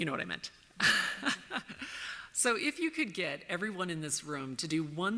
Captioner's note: laughs